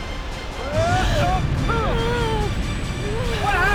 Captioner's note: screaming, Moaning